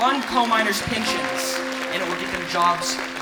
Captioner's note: crowd cheering